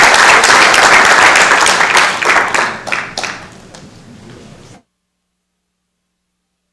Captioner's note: applause